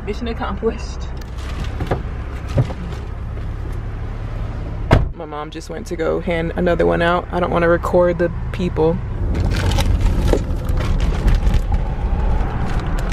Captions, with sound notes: Mission accomplished. (door closes) My mom just went to go hand another one out. I don't wanna record the people. (plastic bag rustling)